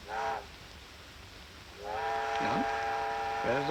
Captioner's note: train whistle